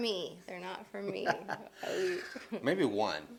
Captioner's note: laughing